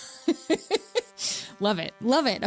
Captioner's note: laughs